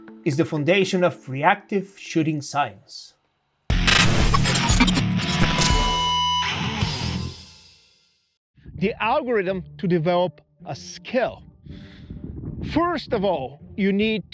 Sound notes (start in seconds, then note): 3.7 logo crackling; 3.7 upbeat rock music